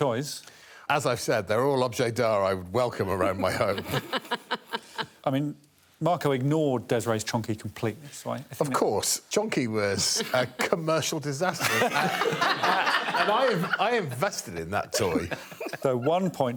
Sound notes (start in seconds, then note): 5.2 laughing; 13.2 all laughing